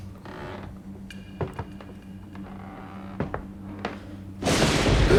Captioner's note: creaking wood; footsteps; thunder claps; Carl gasps